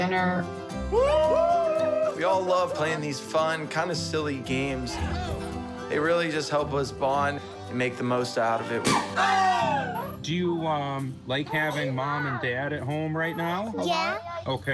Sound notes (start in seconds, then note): 0.9 all cheering; 8.8 all screaming